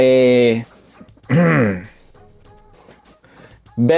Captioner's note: ahemm